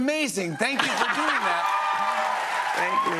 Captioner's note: cheers and applause